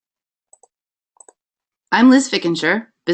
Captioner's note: mouse clicking